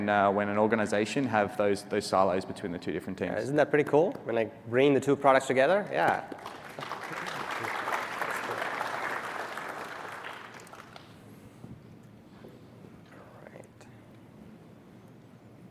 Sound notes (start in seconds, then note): 9.8 audience reacts